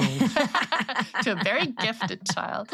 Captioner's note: all laughing